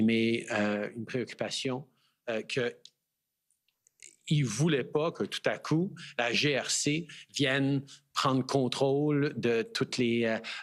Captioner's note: speaking French